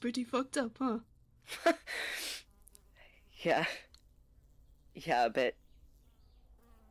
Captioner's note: Remus laughs